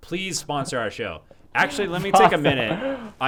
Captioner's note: laughs